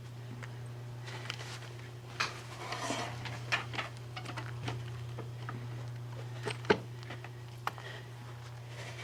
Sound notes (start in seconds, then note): 2.4 chair scraping floor